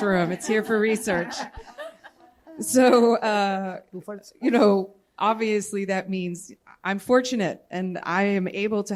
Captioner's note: laughter